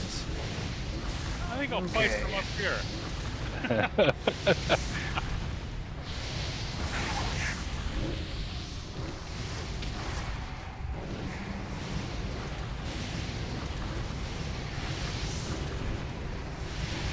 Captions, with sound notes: I think I'll place them up here. [WAVES CRASHING]